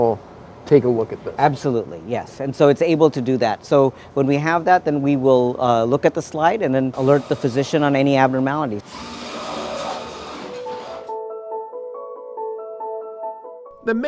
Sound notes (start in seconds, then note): 8.9 machine humming; 10.6 gentle music